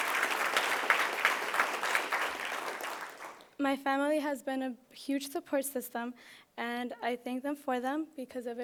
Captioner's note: applause